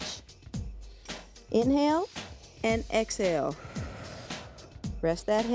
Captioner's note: breath hisses